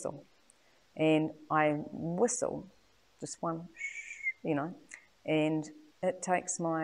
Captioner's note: whistles